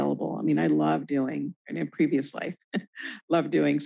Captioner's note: chuckles